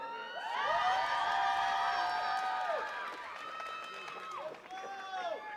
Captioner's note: attendees cheering and clapping